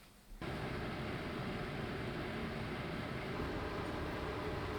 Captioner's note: machine whirring